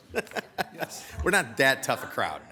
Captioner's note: person laughing